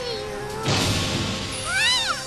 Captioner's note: punch